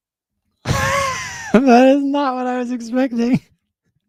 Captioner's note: laughs